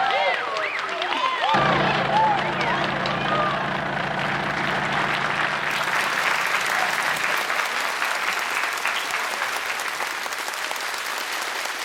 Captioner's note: cheers and applause